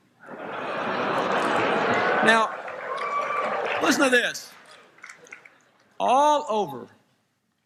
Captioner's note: laughter